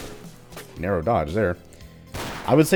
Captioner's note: bang